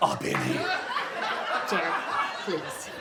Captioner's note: audience laughs